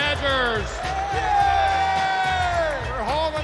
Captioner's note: cheers and applause